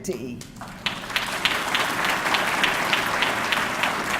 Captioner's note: audience clapping